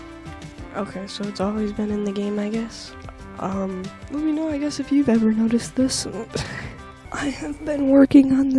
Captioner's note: laugh/sigh/breath into microphone